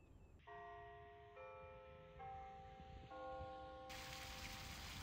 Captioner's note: church bell ringing